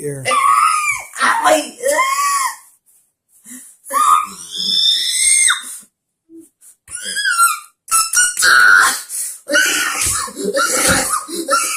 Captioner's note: screaming